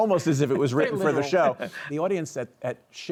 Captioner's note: all laugh